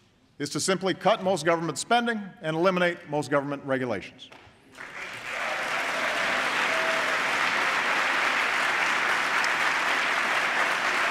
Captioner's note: applause